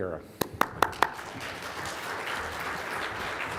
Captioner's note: clapping